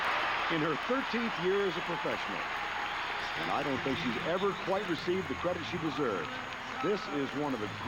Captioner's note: cheers and applause